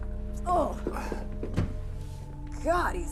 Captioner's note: Joan grunting